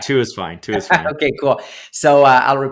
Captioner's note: laughs